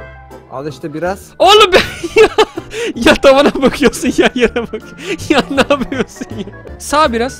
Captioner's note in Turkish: Gülerek